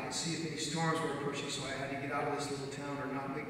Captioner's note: none